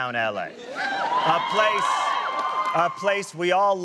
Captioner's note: audience whooping